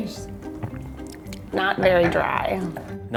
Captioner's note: gulping